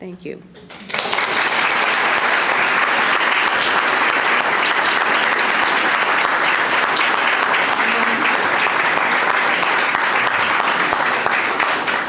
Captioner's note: applause